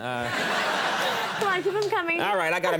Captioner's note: audience laughing